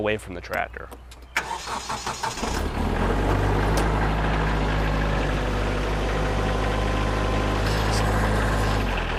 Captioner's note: engine noise